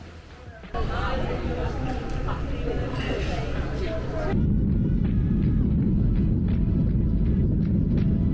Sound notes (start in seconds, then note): 0.2 people chatting